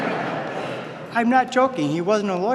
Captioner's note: laughter